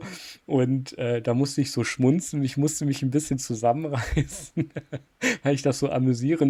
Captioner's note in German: gelächter